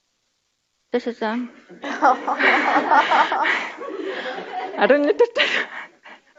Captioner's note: audience laughs